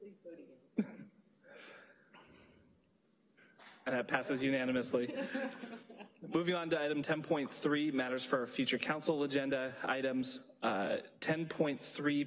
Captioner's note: laughter